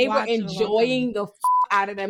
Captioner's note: beep